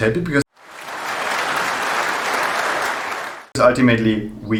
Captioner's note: people clapping